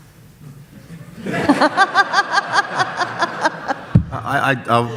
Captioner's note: audience laughs